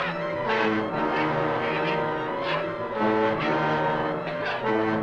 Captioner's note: Strowski screaming